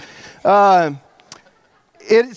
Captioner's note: audience laughs